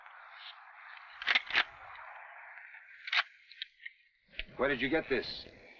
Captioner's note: rifle cocking